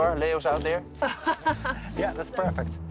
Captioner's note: laughs